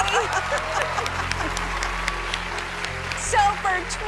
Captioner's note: laughter